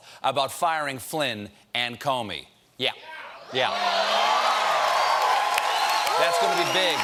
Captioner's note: cheers and applause